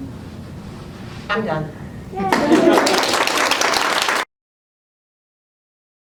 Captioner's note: applause